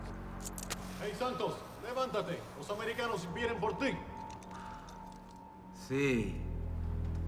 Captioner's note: officers and Santos speaking Spanish